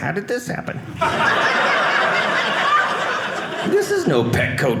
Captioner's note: audience laughing